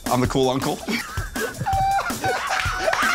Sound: laughter

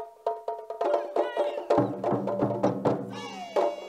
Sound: shouting

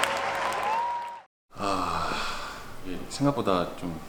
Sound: deep sigh

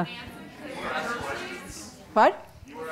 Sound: audience murmuring

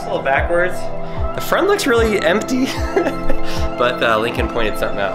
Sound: laughs

